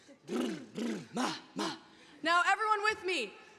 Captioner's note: blows raspberry